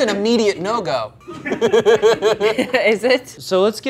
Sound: group laughing

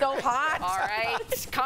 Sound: laughter

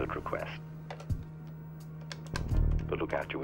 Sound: phone buttons clicking; phone handset clicking

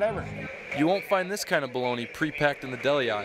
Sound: voiceover

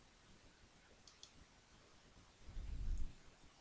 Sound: click

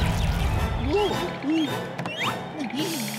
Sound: groaning

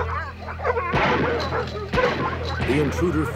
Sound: gunshots

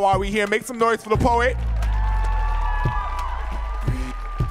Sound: audience cheering

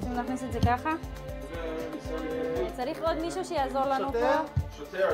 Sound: medics speak foreign language

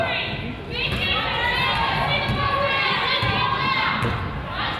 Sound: coach yells

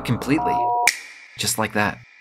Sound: snap

